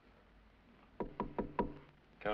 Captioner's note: knocking on door